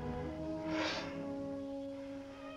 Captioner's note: sigh